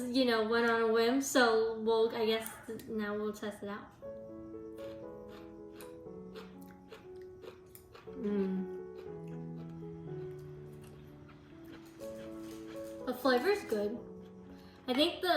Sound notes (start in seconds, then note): 4.7 chew, chew, chew; 8.1 chewing and nodding in agreement